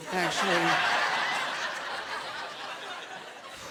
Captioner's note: laughter